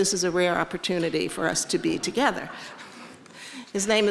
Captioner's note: audience laughing